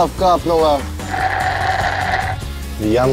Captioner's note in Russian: сербает